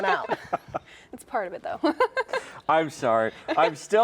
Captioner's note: laughs